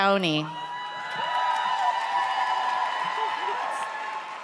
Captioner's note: audience cheers